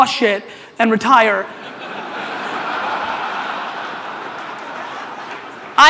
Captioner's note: audience laughter